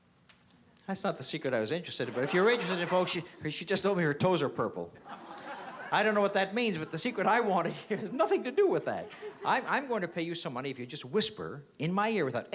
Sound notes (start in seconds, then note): 5.0 laughter